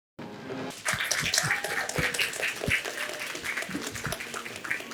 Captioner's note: audience applauds